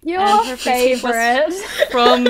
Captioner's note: hosts laugh